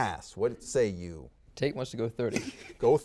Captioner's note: chuckles